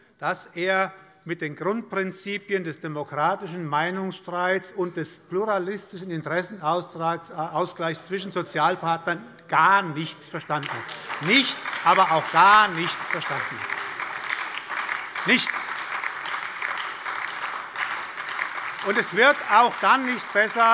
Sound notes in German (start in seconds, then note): 10.5 Lebhafter Beifall bei der SPD und der LINKEN - Beifall bei der FDP